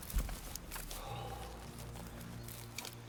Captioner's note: deep exhale